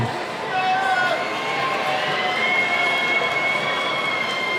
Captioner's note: cheering